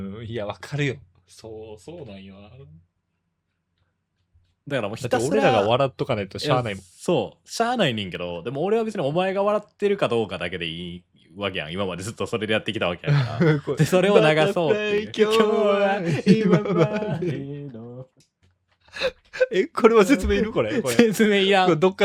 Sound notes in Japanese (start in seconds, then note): 13.1 笑い